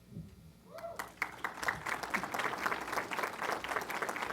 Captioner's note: applause